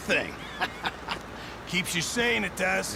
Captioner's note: laughs